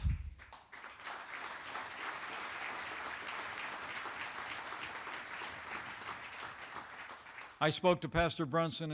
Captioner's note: applause